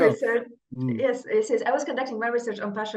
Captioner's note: laughs